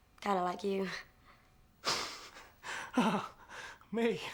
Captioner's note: laughing